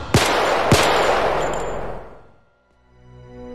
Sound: gunfire

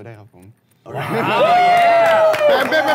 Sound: sound of clapping

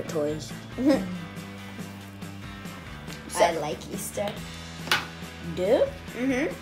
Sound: laughs

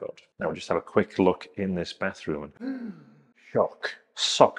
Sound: gasps

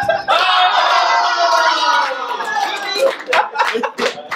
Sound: family cheering

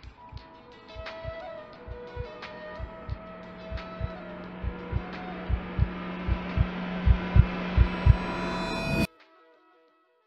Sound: heart beating

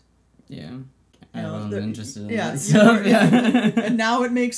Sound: laughs

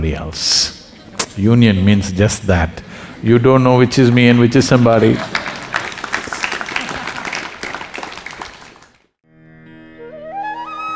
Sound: applause

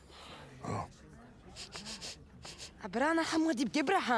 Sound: Shishakli sniffing

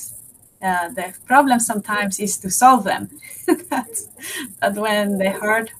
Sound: laughs

